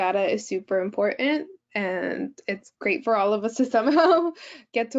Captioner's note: giggles